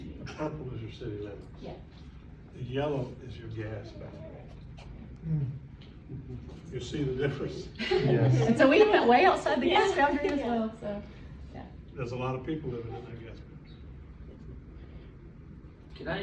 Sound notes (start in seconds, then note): 7.7 laughter